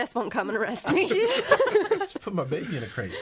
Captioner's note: all laughing